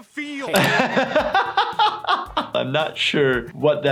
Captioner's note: laughs